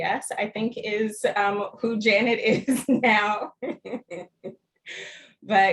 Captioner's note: laughter